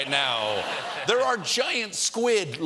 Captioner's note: laughter